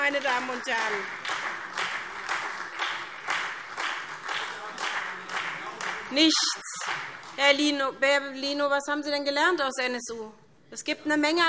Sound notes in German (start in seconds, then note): 0.0 Beifall